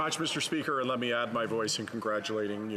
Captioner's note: speaking French